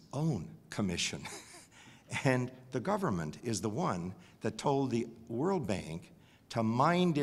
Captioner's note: laugh